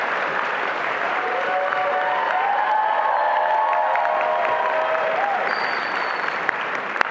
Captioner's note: attendees applauding and cheering